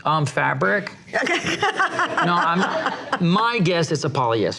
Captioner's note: laughs